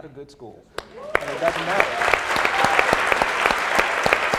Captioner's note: applauding